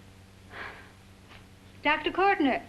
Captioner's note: sighs